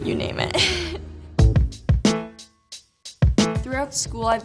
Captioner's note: chuckles